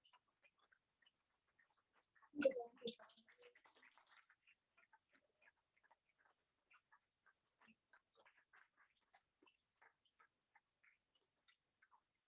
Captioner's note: applause